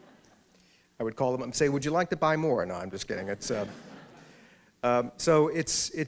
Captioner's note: laughter; laughter